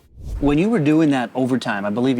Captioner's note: air whooshing